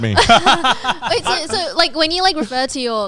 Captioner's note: laughing